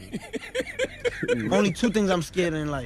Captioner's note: chuckles